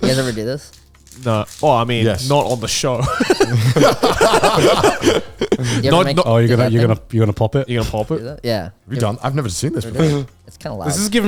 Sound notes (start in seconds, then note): 4.6 all laughing